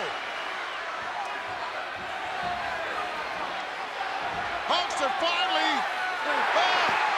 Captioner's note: applause